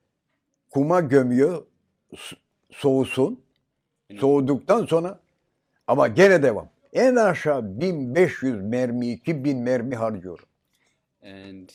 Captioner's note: foreign language